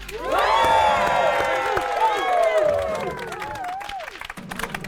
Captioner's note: cheering